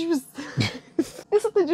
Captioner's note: chuckling